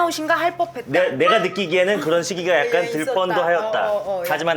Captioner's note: introvert echoing